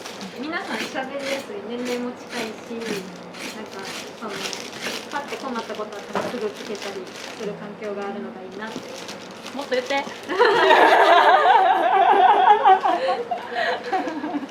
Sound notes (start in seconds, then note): 10.2 laughs